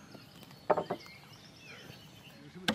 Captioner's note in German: Rumpeln